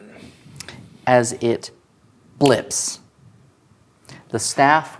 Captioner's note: snaps